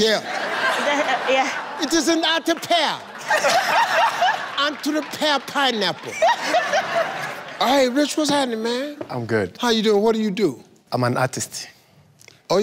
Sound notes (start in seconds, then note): 0.2 audience laughs; 3.0 laughs